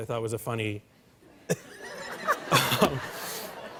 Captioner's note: laughter